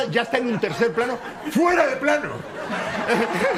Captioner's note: shouting; laughs